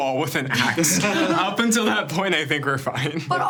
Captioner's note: everyone chuckling